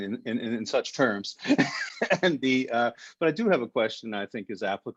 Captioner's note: laughs